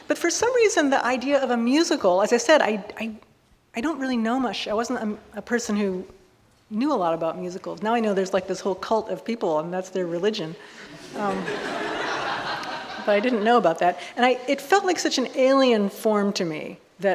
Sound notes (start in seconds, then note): 10.8 audience laughing